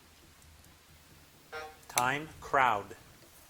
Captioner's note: buzzer buzzing